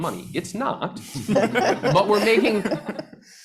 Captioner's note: panelists laughing